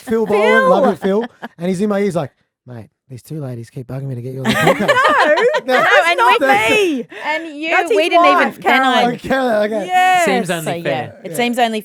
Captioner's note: laughing